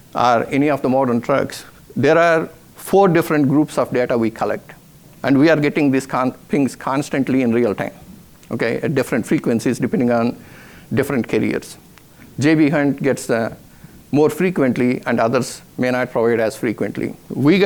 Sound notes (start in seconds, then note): none